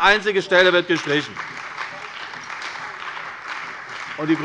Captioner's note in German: Beifall bei der CDU und dem BÜNDNIS 90/DIE GRÜNEN